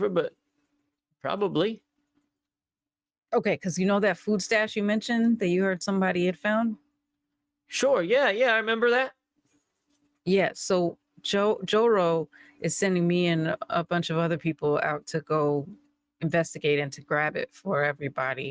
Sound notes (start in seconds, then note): none